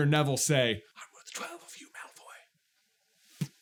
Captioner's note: whispers